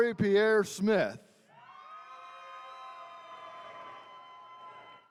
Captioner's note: attendees cheering